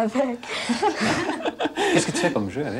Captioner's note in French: rires